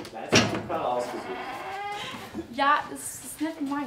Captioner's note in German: Knarzen